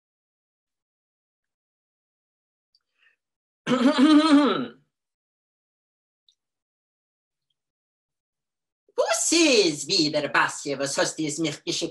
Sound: in Yiddish

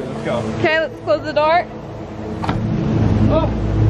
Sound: none

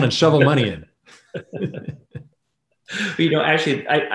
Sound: laughs

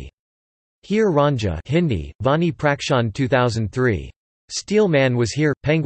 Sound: Hindi; Hindi

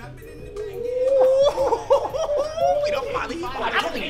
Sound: exclaiming excitedly

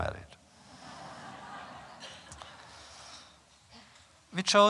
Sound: laughter

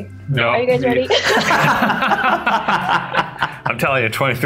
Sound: laughing

